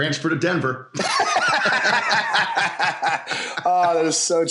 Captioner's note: laughs